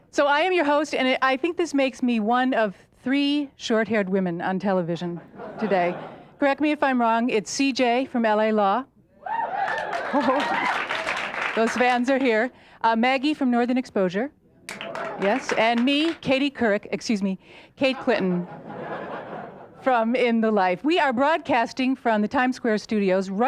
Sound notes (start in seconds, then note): 5.4 light laughs; 9.3 audience hoots and claps; 14.6 light claps; 18.5 audience laughs